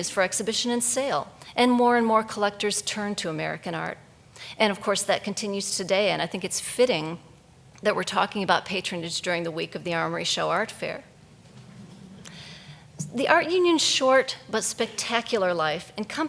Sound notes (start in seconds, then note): 11.7 audience chuckles